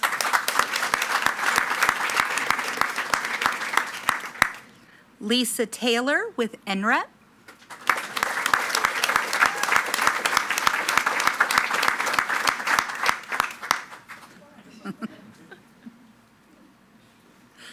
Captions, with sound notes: (attendees clapping) Lisa Taylor with NREP. (attendees cheering and clapping)